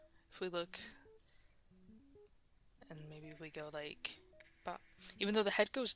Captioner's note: mouse Clicking